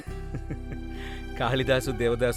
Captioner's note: laughing